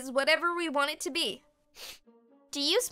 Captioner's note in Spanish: olfatea el aire